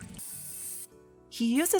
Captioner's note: water splashing; air blowing